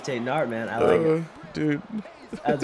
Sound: laugh

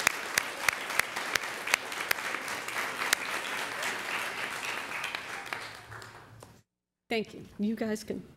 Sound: applause

